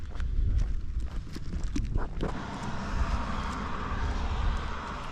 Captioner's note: air whooshing